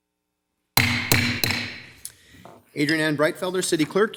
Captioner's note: banging